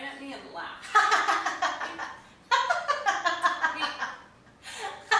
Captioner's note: laughing hysterically